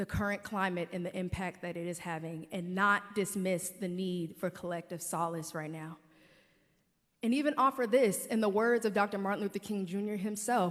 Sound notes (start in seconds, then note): none